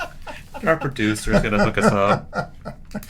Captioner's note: laughter